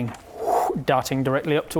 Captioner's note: woooh